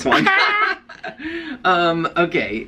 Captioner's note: laughter